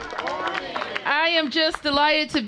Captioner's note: applause